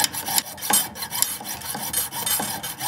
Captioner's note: saw sounds; metal clanking